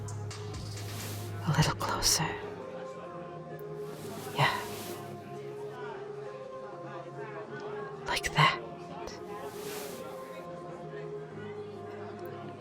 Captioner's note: close whisper